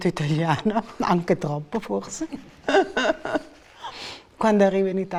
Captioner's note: laughter